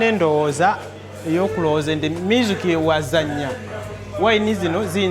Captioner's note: speaking in foreign language